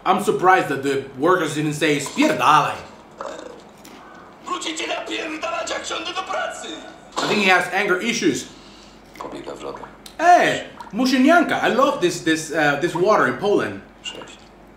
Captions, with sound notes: - I'm surprised that the workers didn't say - (foreign language) - I think he has anger issues. - (foreign language) - Hey! (foreign language) I love this, this, this water in Poland.